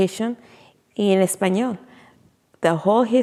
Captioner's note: speaking in foreign language